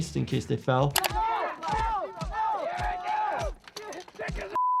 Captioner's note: people cheering